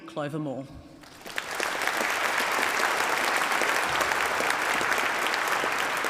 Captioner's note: applause